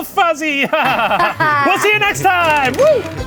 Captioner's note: laughing